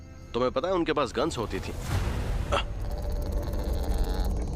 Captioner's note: animal growling